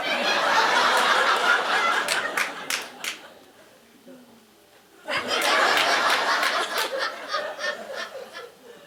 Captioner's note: audience laughing